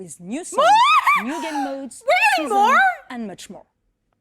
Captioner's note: squeals